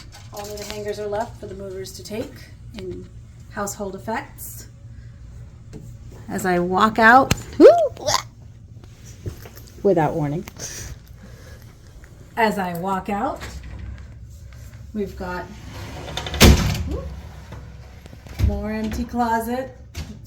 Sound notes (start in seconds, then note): 7.4 grunts